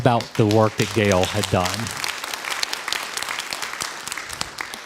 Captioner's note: crowd applause